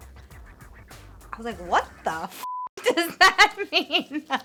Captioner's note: beep; laughing